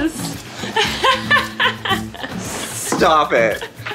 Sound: Colleen laughs

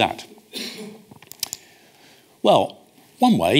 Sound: audience coughs

